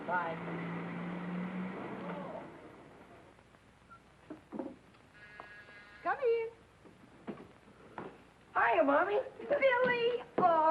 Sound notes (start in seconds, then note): 5.2 doorbell buzzing